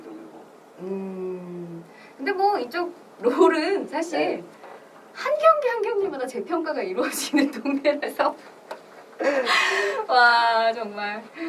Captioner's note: laughs